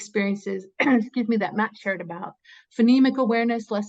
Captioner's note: coughs